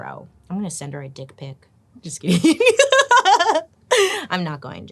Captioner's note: laughs